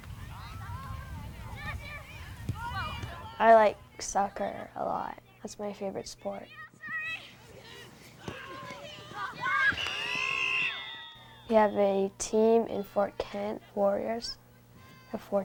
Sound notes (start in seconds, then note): 0.2 players yelling; 8.2 players yelling; 9.6 whistling blaring